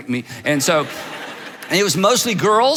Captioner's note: audiences laughs